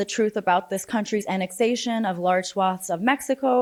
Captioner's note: none